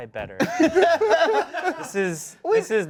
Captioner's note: laughs